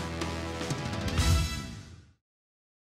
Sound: whoosh

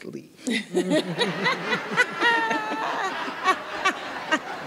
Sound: everyone laughing

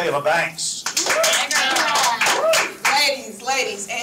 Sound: team clapping

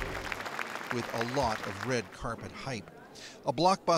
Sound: applause

